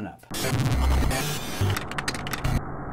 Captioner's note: typing